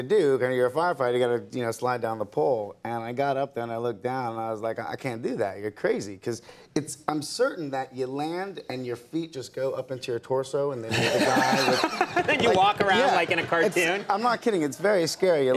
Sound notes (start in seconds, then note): 10.9 laughs; 10.9 audience laughs